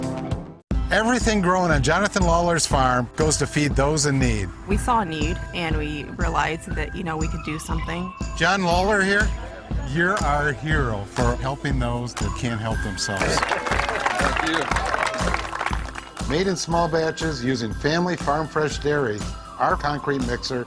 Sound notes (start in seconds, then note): 13.1 applause